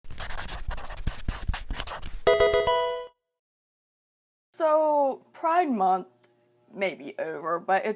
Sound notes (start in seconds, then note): 0.1 marker scratching; 2.3 electronic video game chime